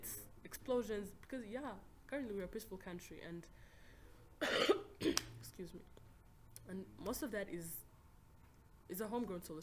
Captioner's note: coughs again